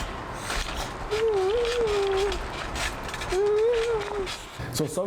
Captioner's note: humming